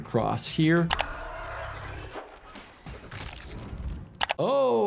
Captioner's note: eerie screeching